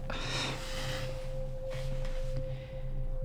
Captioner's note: Savannah sighs